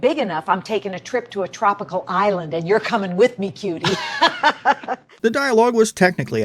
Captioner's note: laughs